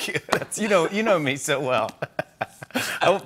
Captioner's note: both laugh